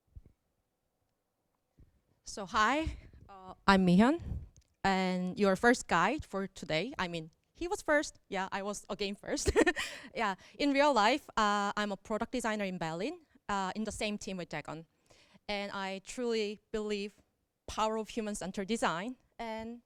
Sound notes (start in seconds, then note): 9.5 chuckles